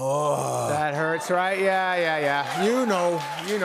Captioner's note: cheers and applause